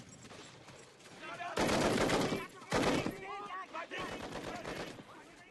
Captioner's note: german soldiers shouting